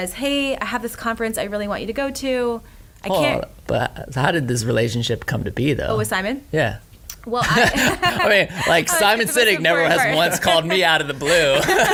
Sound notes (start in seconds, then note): 7.4 laughter